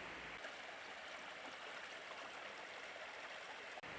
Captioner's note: brook babbling